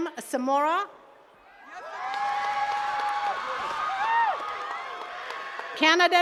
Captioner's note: attendees cheering and clapping